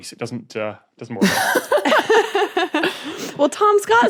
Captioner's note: guests laughing